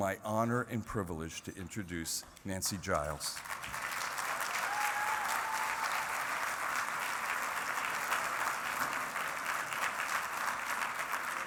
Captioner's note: applause